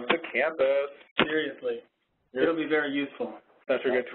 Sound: voiceover

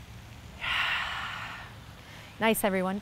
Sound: exhales

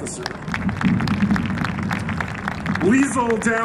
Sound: applause

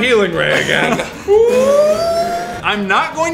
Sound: healing noises?

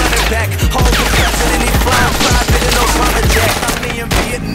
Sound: rounds firing

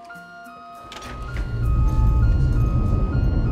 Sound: whirring, beeping

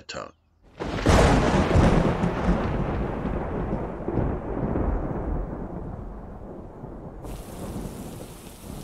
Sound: rumbling thunder

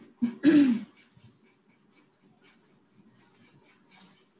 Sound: clears throat

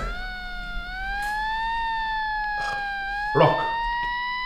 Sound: siren

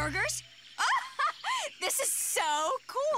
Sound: laughs

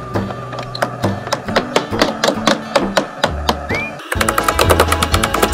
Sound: tools hammering

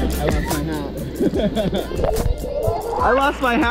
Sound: laughs

